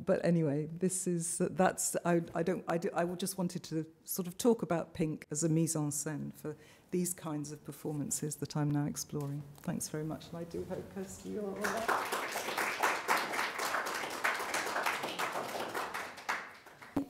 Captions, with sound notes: But anyway, I just wanted to sort of talk about pink as a mise-en-scene for these kinds of performances that I'm now exploring. Thanks very much. And I do hope, Kirsty, you are all right. (audience claps)